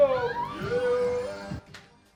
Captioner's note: scream